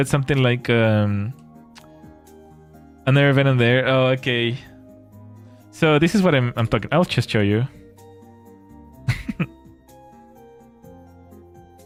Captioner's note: laughter